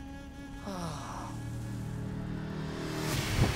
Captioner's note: sighing